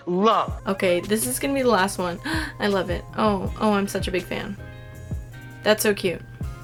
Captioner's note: gasp